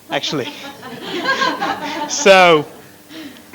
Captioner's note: laughter